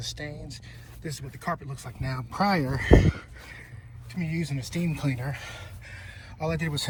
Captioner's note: sighs